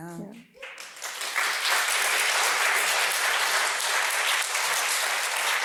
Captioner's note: applause